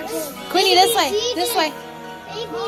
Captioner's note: excited speech